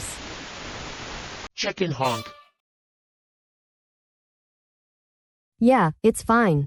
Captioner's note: clown honk sound